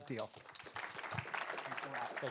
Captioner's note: audience applauding